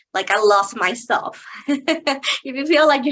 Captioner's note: chuckling